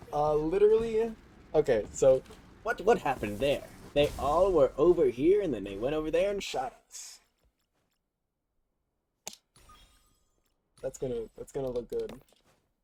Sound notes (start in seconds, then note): 9.2 click